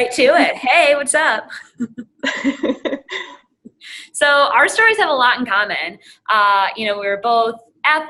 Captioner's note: laugh